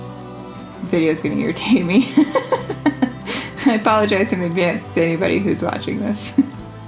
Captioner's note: laugh